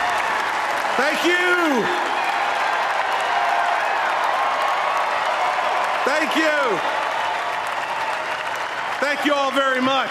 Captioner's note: applause